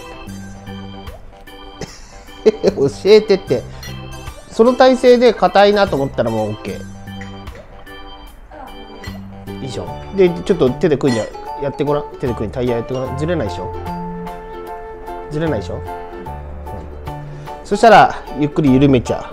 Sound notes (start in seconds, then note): 1.6 laughs